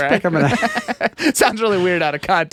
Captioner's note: laughing